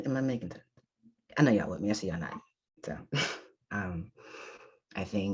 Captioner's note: chuckles